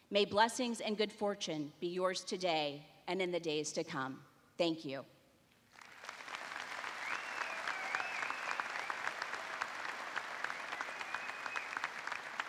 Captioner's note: applause